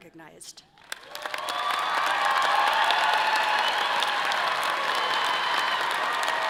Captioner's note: audience applauding and cheering